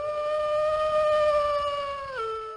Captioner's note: wolf howl